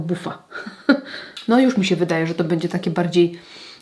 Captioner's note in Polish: śmiech